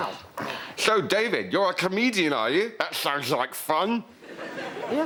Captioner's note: with lisp